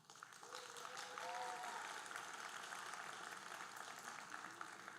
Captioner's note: audience applauding